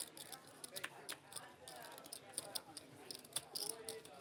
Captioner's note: chips clinking